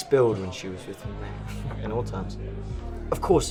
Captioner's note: chuckles